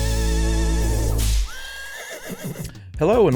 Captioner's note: whip cracking; horse neighing